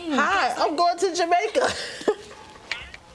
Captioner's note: both laughing